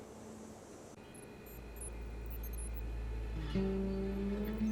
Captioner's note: electronic noises